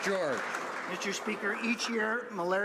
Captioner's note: applause